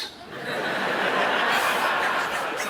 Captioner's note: laughter